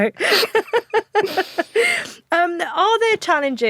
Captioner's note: both laugh